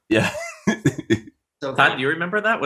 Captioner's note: chuckling